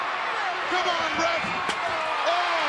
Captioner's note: metal clangs